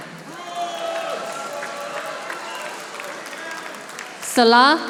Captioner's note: audience applauding